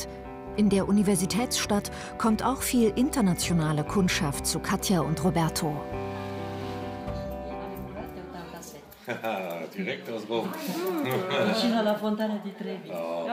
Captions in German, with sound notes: In der Universitätsstadt kommt auch viel internationale Kundschaft zu Katja und Roberto. (Friedliche Musik) Haha. Direkt aus Rom. (Sie sprechen Italienisch.)